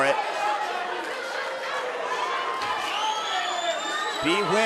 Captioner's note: audience cheering